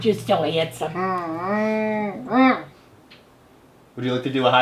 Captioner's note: humming